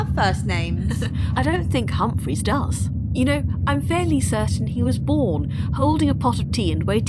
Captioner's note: laughs